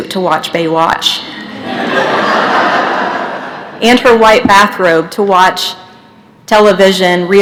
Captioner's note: laughter